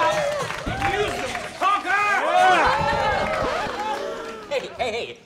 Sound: cheers

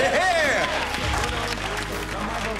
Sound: cheers and applause

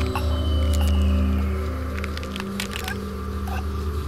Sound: DEPUTY gasps for air; bones cracking

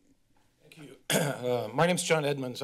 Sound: clears throat

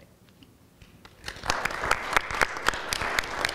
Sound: applause

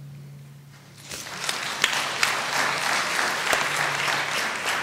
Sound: applause

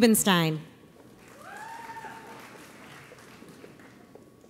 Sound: audience applauds

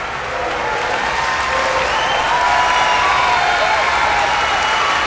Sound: applause, loud cheering

